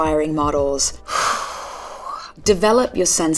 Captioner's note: Karen sighs